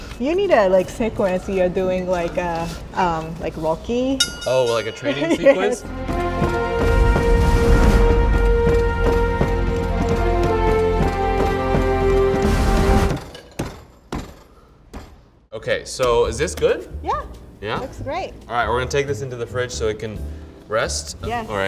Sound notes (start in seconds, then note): 6.5 majestic music; 11.4 punching dough